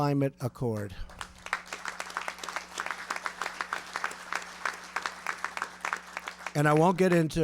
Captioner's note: applause